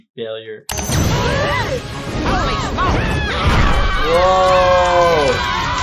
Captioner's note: everyone yelling